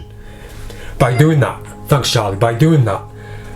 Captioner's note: Charlie meows